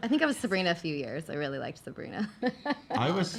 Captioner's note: laughing